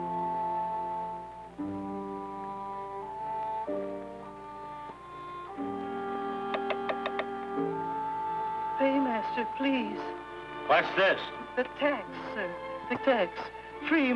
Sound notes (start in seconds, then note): 6.5 coin tapping